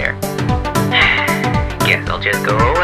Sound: sigh

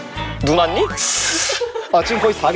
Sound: spraying

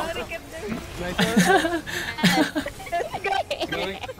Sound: laughing

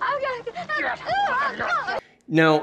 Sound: man grumbling, woman crying

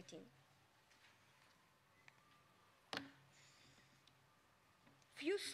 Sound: silence

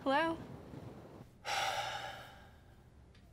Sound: sighs

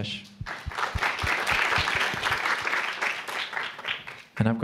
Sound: applause

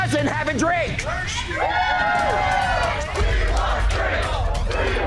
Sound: patrons cheering

